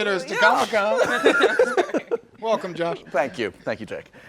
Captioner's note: laughing